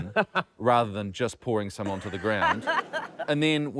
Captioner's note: laughter